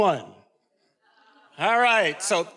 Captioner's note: faculty member speaking faintly